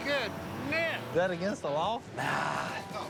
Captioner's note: horn honks